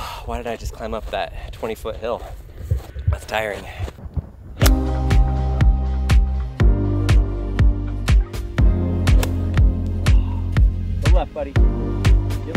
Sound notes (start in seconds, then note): 4.5 golf club pings; 4.6 relaxing music